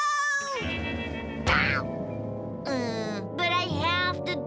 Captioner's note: Milo groans